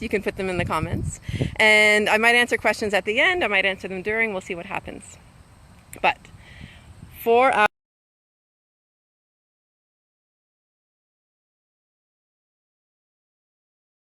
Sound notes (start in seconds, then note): 7.9 audio cuts out